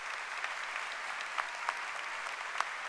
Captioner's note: applause